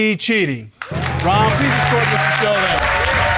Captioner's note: all applauding